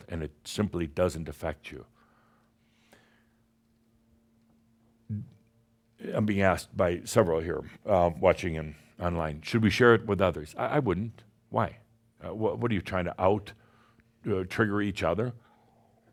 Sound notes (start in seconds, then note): none